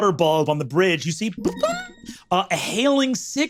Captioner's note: vocalized ping